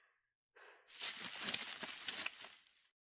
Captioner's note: bush rustling